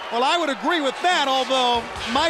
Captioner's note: crowd cheering